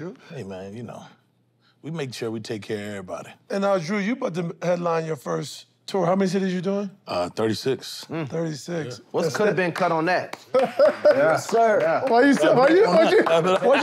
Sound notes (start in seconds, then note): 10.5 chuckles